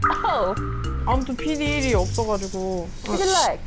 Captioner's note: unemployed sound effect